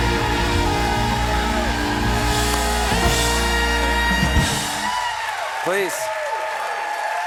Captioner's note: cheers and applause